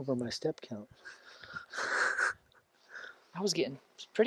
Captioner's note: laughs